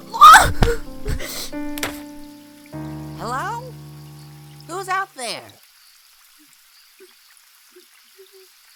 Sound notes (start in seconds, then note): 0.1 gasps